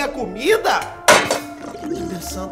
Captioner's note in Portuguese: panela batendo